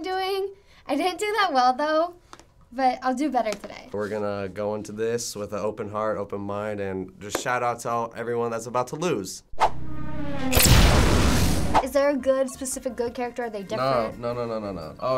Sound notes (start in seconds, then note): 9.5 boom!; 9.6 revving